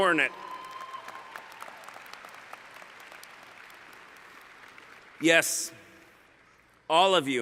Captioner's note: cheering